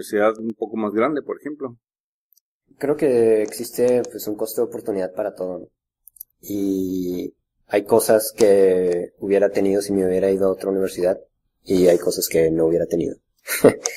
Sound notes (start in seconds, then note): 13.4 laughs